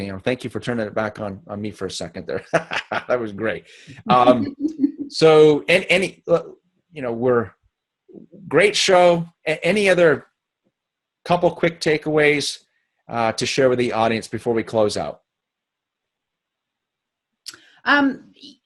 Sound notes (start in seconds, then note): 2.4 chuckles; 4.0 laughing